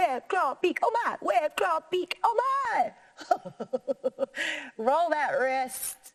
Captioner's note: laughing